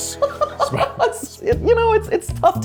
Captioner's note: laughing